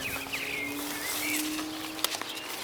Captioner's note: birds chirping